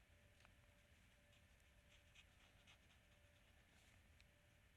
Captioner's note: pen scratching